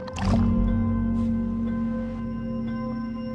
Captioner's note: water splash